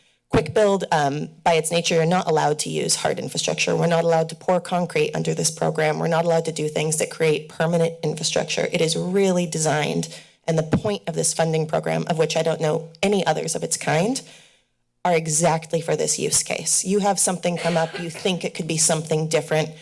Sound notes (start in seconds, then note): 17.5 coughing